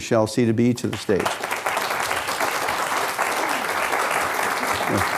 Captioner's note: applause